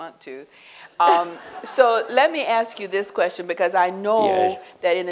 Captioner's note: laughter